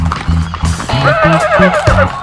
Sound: horse Naying

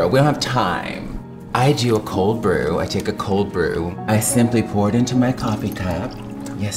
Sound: none

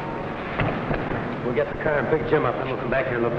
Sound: thudding

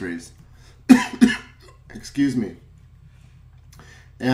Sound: coughs

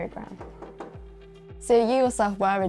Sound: knock on door

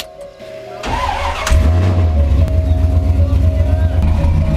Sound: car starts

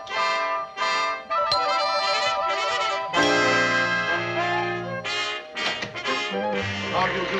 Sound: doorbell ringing

